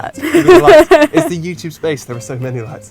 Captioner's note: laughs